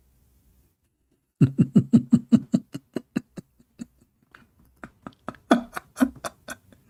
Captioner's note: Ketawa